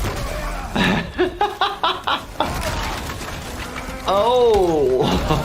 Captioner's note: laughing